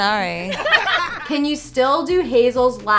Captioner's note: all laugh